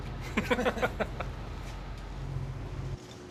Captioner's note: both chuckle